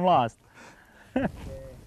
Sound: laughter

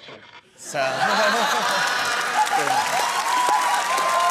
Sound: laughter

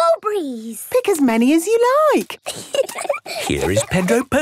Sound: giggling

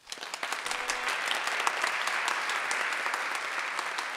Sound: audience applauding

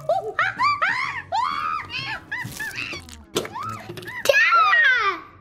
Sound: monkeys screeching

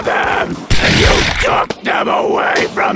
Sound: misc. gunfire

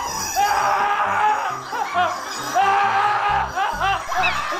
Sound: screaming

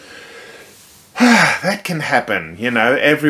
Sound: sighs

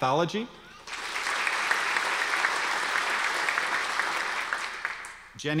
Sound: audience applause

